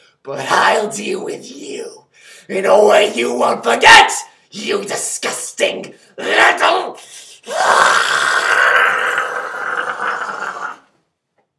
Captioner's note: scream